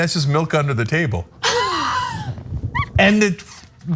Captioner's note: laugh